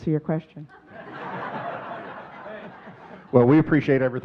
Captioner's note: audience laughing